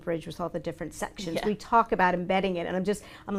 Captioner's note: laughs